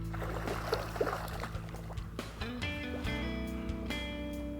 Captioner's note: water splashes; soft music